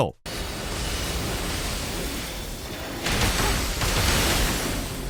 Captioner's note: cannons firing